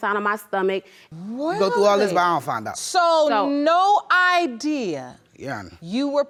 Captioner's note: dramatically